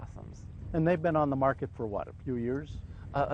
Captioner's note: voiceover